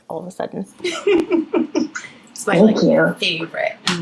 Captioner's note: laughing